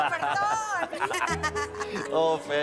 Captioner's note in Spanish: Risas